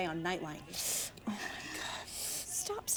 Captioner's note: Mayday hisses